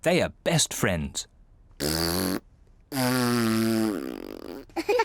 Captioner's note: blowing raspberries; both laugh